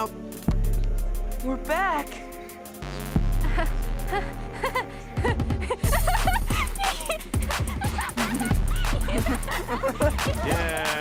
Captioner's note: Steven and Connie laugh